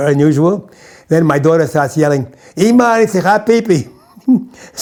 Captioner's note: in Hebrew